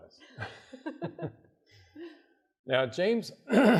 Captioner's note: chuckling